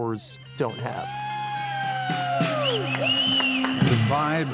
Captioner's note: cheering & Claps